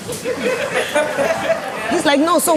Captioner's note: laughs